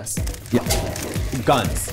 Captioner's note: cameras snapping